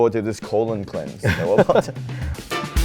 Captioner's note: both laugh; upbeat music